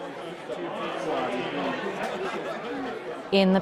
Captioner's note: crowded bar noise